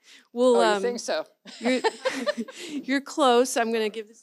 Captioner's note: laughs